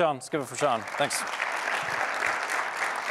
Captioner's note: applause